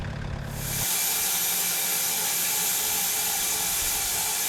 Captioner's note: blade sawing